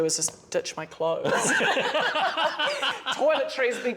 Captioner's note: laughter